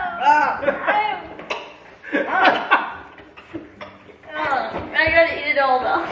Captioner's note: kids moaning; dad laughing